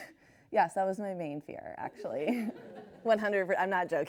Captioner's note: laughs